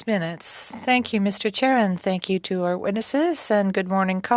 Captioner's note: speaking French